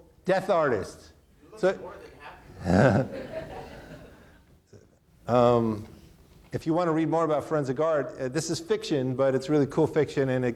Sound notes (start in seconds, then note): 2.6 audience laughing